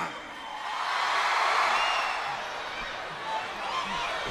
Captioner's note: crowd cheers